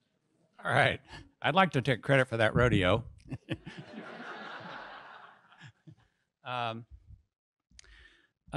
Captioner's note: audience laughs